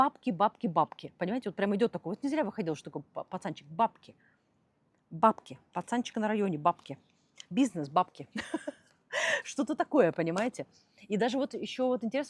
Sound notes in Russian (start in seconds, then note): 8.3 смех